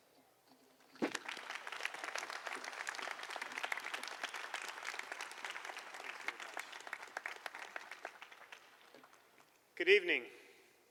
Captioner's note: applause